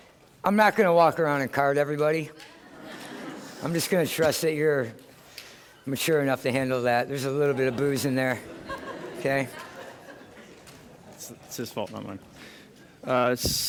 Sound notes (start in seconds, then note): 2.4 laughter; 7.5 laughter